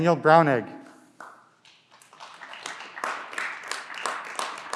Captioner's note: clapping